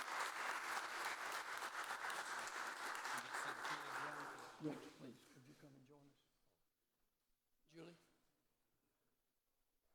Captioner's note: applause